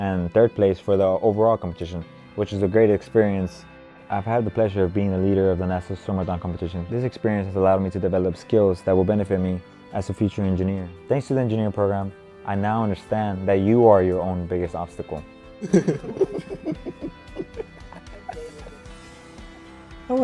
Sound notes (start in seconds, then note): 15.6 laughs